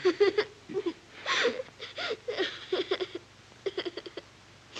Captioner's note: sobbing continues